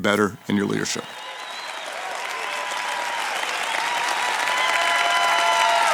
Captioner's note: attendees applauding and cheering